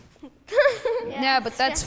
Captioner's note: girl giggles